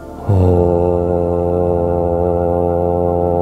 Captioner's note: humming